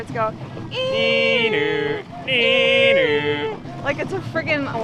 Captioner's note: vocalizing high pitched siren